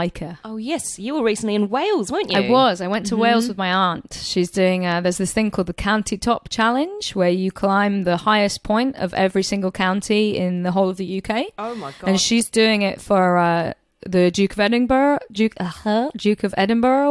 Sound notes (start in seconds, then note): 14.5 struggles